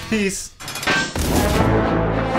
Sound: clank

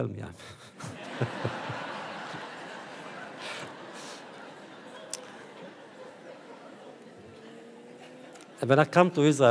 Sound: audience laughter

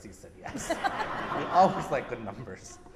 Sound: audience laughs

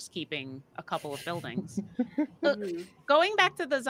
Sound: chuckles

